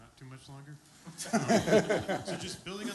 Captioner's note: laughter